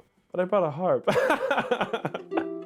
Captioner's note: laughing